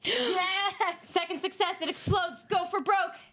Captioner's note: women gasp